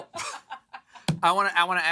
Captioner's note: laughter